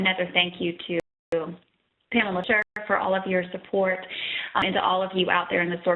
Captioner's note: audio dropping